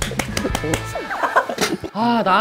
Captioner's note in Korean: 빵 터짐